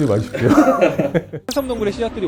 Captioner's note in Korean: 웃음